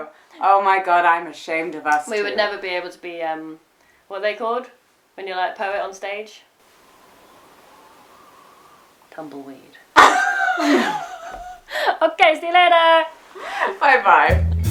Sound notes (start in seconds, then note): 6.8 gentle wind blowing